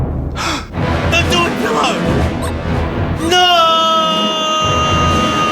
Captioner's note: gasps